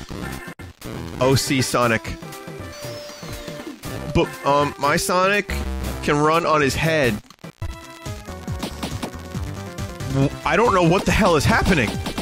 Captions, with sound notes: OC Sonic. (Teenager voice) But, um, my Sonic...can run on his head. Wh-- I don't know what the hell is happening!